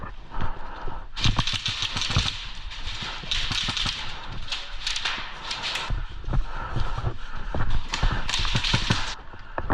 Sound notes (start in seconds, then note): 0.0 heavy breathing; 4.8 heavy breathing; 7.8 shots